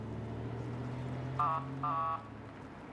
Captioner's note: honks horn